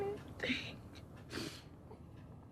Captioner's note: sniffles